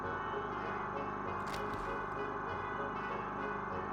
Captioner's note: muffled machine humming